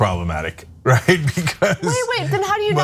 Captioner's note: laugh